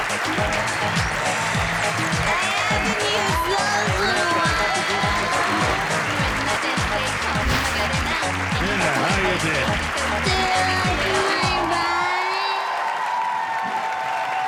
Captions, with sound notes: (slurred speech) - Anna how you been? - Do you like my body?